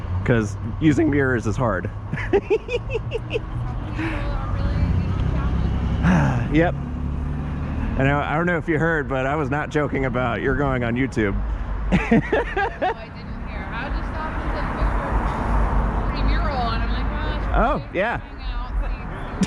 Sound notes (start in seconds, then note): 6.0 sighh